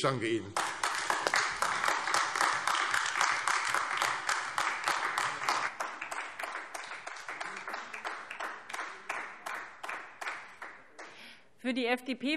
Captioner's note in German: Beifall AfD